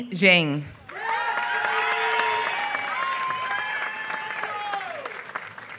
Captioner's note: applause